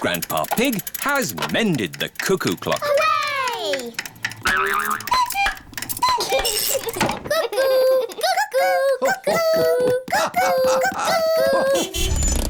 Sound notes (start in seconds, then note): 5.4 clock chimes; 6.0 laughs; 11.9 horn honks